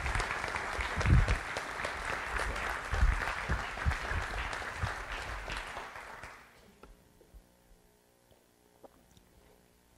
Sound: audience applauds

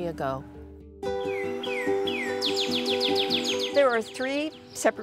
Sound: bright guitar music; birds twittering

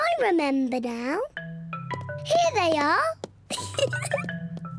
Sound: giggles

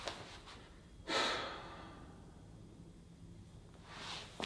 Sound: theo sighs

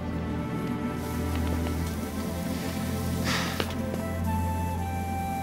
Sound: spray paint cans hissing

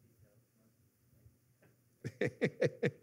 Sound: laughing

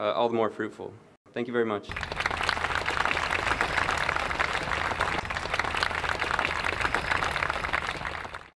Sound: applause

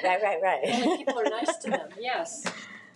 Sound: all laughs

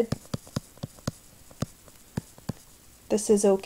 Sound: silence

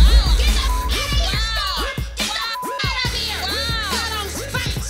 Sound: beep sound

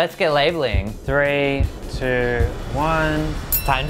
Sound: bell sound

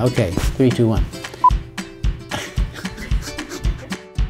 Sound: laughs

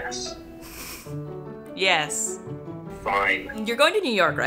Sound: laughs

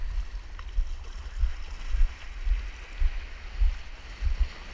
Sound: swashing

